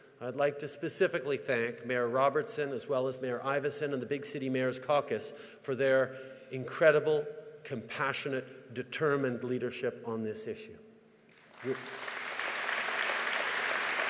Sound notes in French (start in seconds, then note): 11.4 Applaudissements